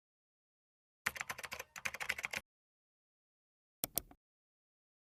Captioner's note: keyboard clicking